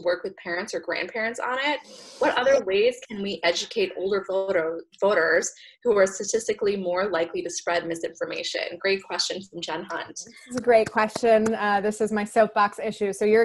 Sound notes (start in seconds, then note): 10.5 claps